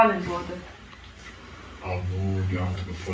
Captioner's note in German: Schüler im Hintergrund